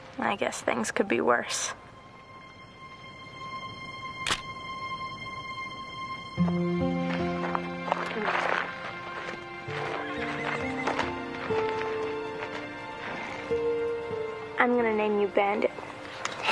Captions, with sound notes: I guess things could be worse. (shutter clicks) (soft music) I'm going to name you Bandit,